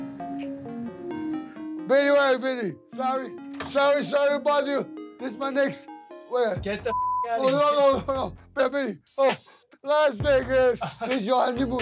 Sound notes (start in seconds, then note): 0.3 kissing; 6.8 beep; 7.6 laughs; 10.6 Vinny laughing